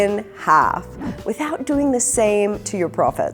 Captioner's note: air whooshes